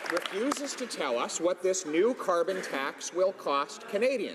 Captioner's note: some Applause